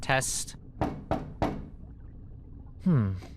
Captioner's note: knocking